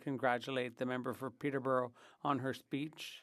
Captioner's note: speaking French